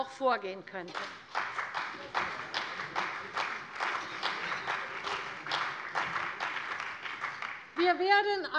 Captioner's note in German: Beifall bei der CDU und dem BÜNDNIS 90/DIE GRÜNEN